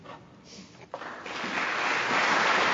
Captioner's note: sniffles; crowd applauds